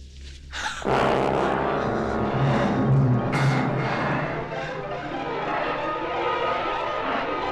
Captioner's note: Julie gasps; dramatic music